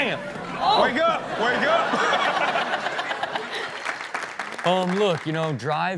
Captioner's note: everyone laughs